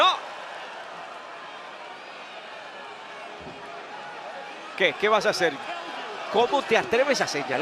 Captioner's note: applause